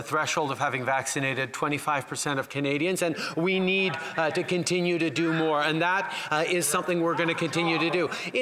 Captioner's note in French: voix de l'interprète